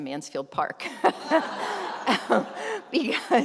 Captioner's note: laughter